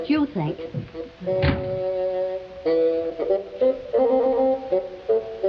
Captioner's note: door slamming